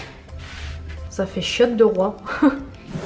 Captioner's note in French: rires